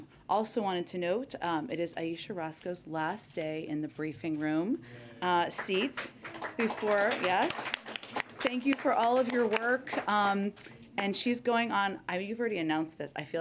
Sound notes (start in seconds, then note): 5.3 applause